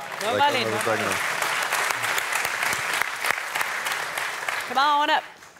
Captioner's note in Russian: публика аплодирует